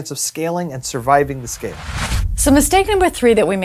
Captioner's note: whooshing sound